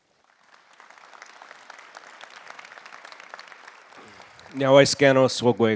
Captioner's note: audience applauding; speaking in foreign language